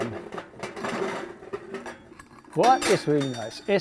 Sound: stove's lid clinking

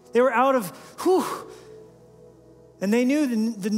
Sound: gasp

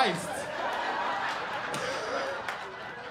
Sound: laughter

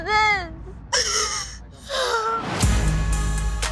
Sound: sobbing

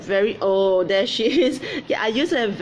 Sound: giggles

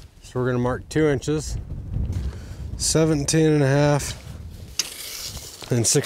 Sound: none

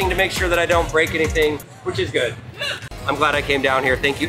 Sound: none

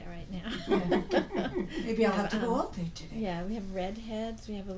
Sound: voiceover

